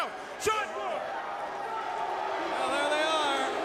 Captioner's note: crowd cheering